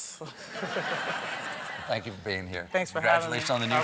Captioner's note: laughter